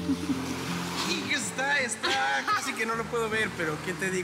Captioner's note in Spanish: ella ríe